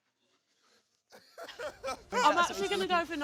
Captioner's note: laughs